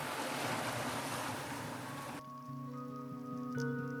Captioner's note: water splashing; calm guitar music